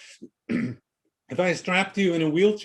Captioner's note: clears throat